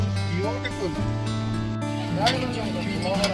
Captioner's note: non-english speech